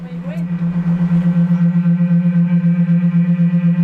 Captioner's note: humming noise intensifies